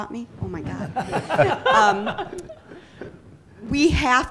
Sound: laughter

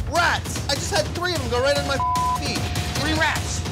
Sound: beeps

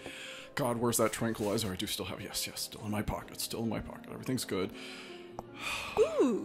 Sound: sighs

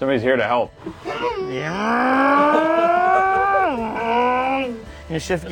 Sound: making engine sounds

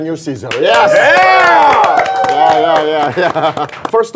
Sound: sound of clapping

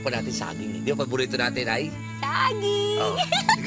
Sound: giggles

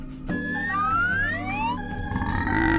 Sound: slide whistle sound intensifies

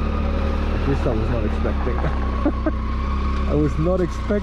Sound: laughs

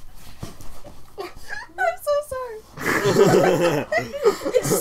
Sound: laughter

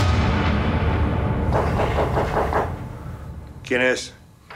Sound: knocking

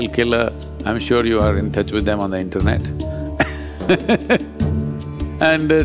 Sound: laughs

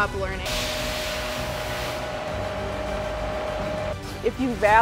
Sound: drill whirring

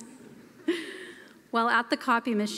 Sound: laughter

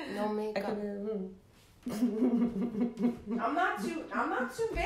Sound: chuckling

